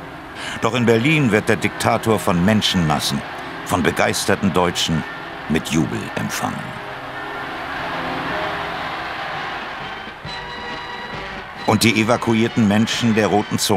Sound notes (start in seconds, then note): 7.0 Jubel, Glockenläuten